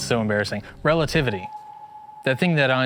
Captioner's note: ethereal chirp